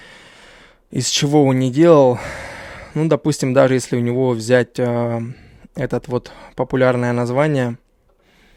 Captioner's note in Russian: вздыхает